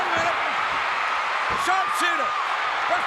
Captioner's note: applause